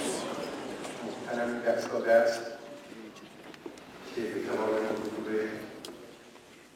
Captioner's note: Arabic spoken language